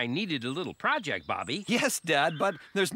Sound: chuckling

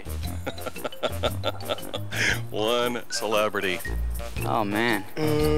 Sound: chuckling

